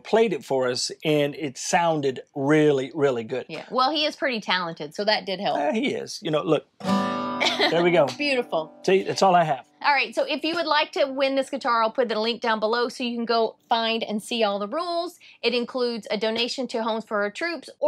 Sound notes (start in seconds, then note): 6.6 guitar music; 7.3 laughs